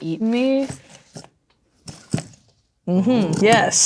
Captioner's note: objects rattling